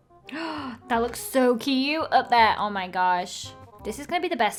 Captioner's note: gasps